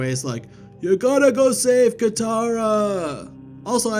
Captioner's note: in old man's voice